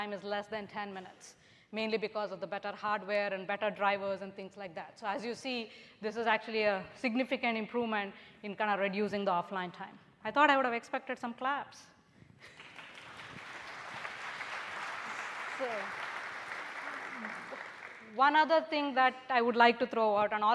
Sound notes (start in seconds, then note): 12.4 applause